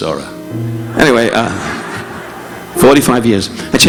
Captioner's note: audience laughing